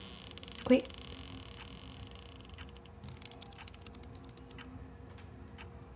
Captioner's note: creaking